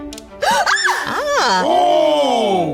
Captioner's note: upbeat orchestra music; woman screams